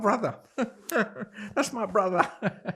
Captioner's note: laughing